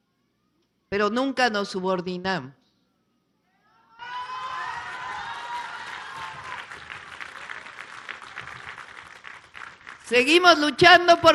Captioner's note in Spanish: aplausos